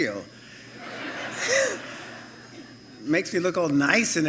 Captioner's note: laughter